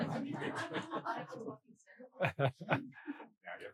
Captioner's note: faintly speaking